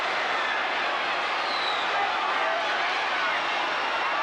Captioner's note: crowd cheers